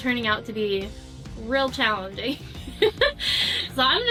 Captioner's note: laughs